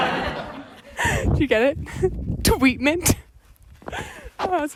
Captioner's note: audience laughs; laughs